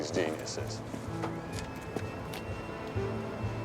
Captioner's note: footstep